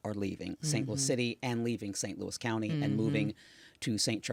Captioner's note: Tishaura mmhmming